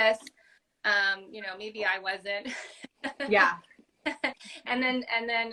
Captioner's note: laugh